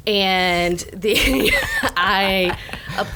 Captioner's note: laughs